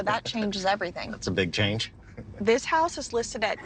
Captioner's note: chuckles